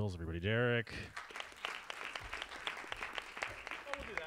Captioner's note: audience claps